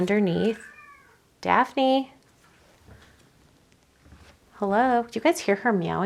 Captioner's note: Daphne meowing